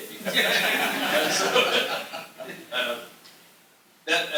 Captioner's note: laughter